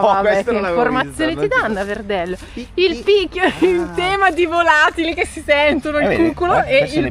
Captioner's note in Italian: risate